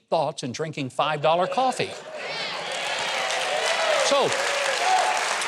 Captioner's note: applause